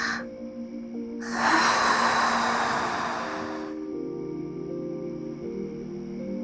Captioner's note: inhale; exhale